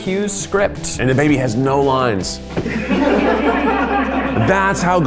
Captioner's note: laugh